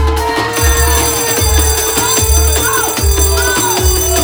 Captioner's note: fire alarm